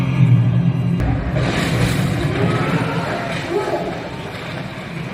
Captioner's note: suspense music; crash